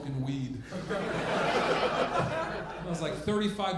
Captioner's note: audience laughing